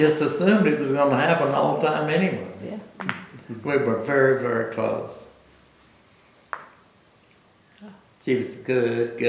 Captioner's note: laughter